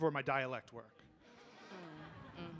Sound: audience responds

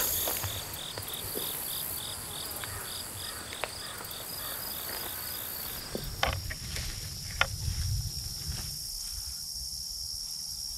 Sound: crickets chirping

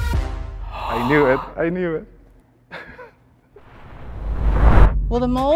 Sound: group gasps

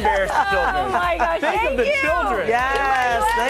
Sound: laughter

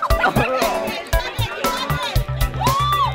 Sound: laughter; cries of encouragement

